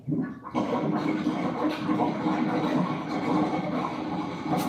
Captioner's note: garbage disposal gurgling